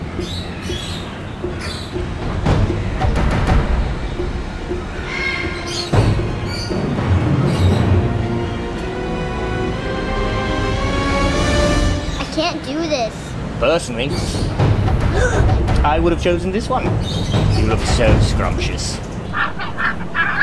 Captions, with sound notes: I can't do this! Personally... *gasp* I would have chosen this one... He looks so scrumptious *bird squawking*